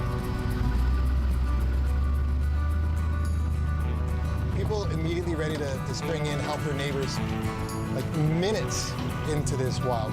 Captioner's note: engine revving